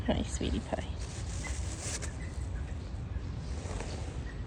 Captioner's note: birds chirping